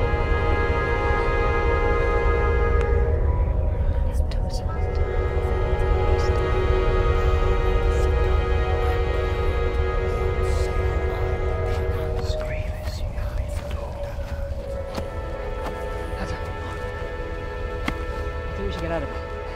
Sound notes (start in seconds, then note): 3.3 Celtic voices whisper; 5.3 orchestral music intensifies